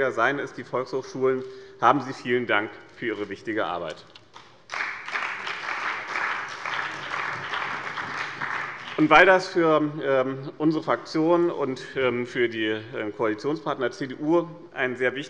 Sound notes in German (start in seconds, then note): 4.4 Beifall bei dem BÜNDNIS 90/DIE GRÜNEN und der CDU